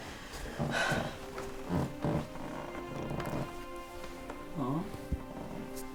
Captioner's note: gentle music; sighs